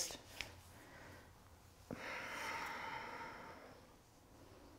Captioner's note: deep breathing